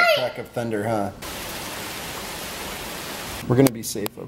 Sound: rain splashing

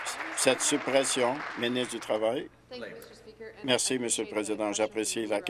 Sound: applause

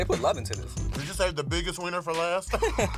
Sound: both laugh

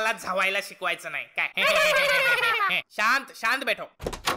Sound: hahahaahha

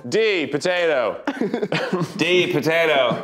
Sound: laughing

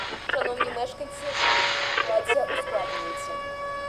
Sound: siren wailing

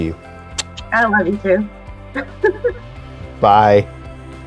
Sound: kiss sound; laugh

